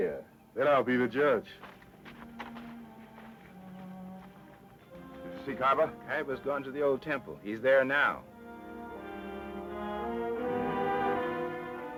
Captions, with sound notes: - Then I'll be the judge. (footsteps crunching) - Did you see Kyba? - Kyba's gone to the old temple. He's there now. (suspenseful orchestra music)